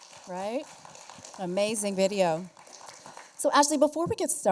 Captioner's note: applause